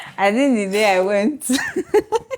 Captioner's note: laughs